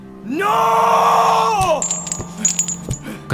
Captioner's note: screams